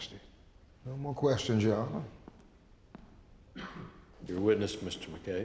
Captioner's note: footsteps